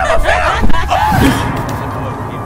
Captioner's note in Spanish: Grita